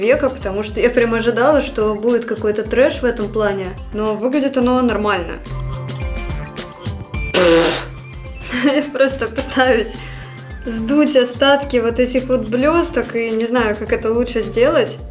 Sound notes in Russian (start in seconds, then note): 7.3 дерзкий выдох